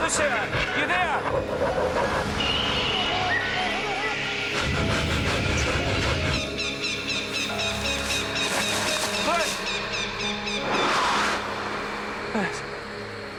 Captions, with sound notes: Lucia! You there? (birds tweet) (pants) (birds squawk) Luce! (whooshing) Luce.